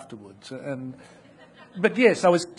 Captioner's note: audience laughing